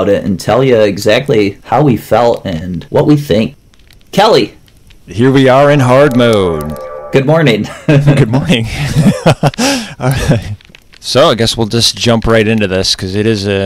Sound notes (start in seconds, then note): 8.7 laughter